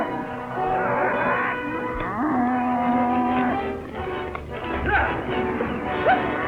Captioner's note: cattle low